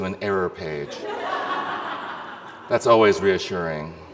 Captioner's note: audience laughs